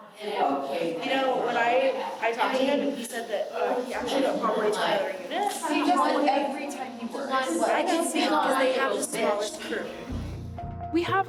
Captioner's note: indistinct chatter